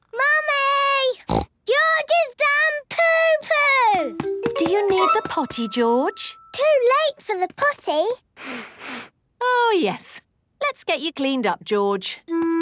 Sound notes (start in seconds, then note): 1.2 snorts; 8.4 sniffs